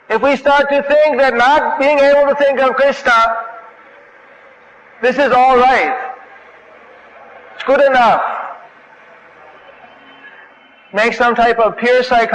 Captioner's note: chanting